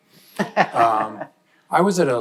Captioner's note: panelist laughing